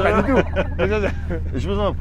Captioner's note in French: Rires